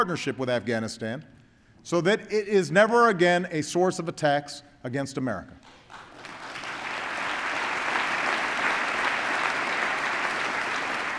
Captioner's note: applause